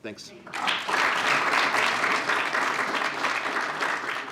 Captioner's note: applause